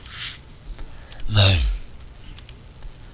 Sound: random noises to imitate Lassi

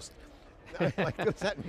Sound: laughs

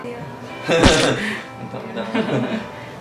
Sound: fake laughter

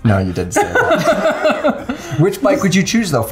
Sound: laughter

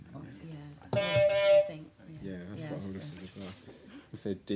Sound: honk

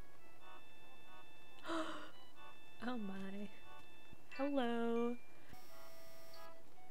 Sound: gasp

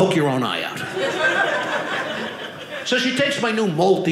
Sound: audience laughing

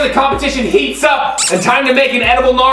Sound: squeak

